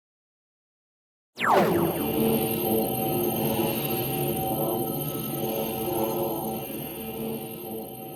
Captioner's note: laser sound effect